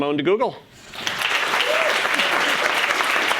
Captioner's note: applause